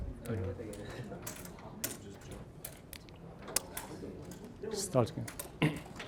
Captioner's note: puzzle pieces clattering